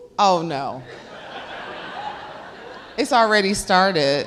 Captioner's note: laughs